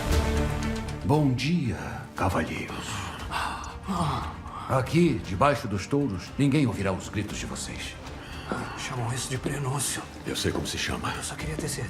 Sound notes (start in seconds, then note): 2.9 both breathing heavily; 8.2 exhales